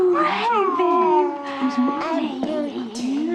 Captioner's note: molly babbling